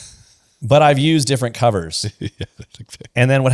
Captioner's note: laughs